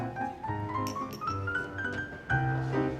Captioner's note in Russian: перезвон рюмок